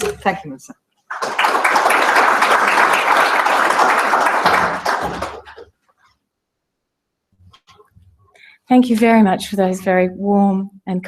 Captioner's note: applause